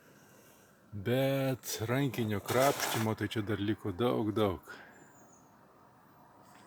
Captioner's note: scrubbing, cleaning